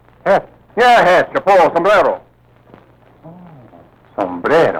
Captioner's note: speaking foreign language